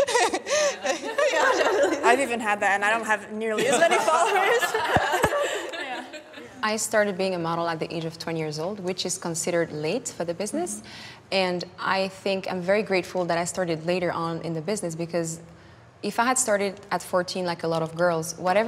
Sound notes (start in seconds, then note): 3.6 laughing